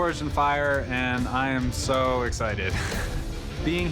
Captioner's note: laughs